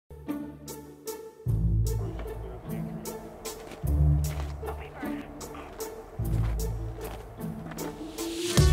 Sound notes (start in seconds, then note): 1.4 bouncy upbeat music; 4.2 walkie-talkie chatter